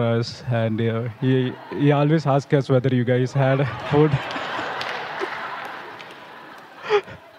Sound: laughter

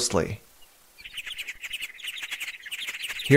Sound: A mouse ‘sings’ at a very high pitch

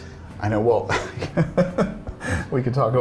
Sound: laughs

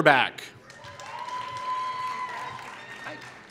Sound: applause

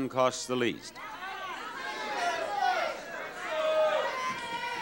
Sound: audience exclaiming

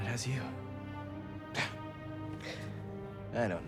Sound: laugh

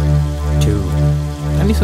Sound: hears sound of water

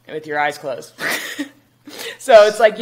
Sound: chuckles

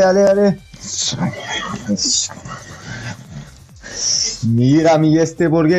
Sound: murmuring in Spanish

